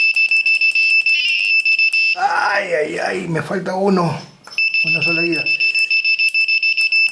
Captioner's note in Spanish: campana